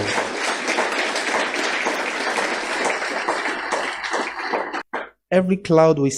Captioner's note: applause